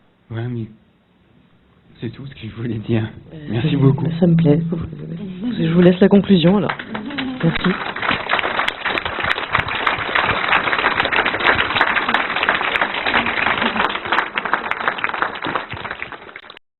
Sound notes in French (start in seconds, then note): 8.6 Applaudissements